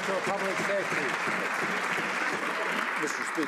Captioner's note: some Applause